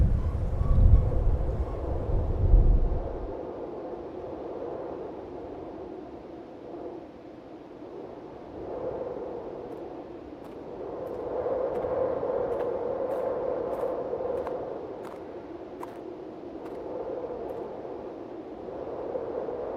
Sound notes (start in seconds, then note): 2.9 wind whistling continues; 9.6 footsteps crunching; 16.0 wind whistling continues